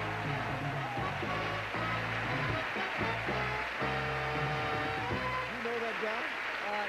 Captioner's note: audience applauding